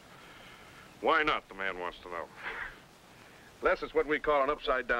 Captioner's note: laughs